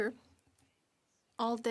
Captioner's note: speaking French